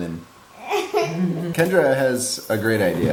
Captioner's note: laughter